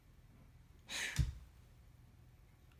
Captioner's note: sighs dramatically